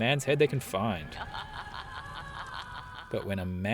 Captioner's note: sinister laughter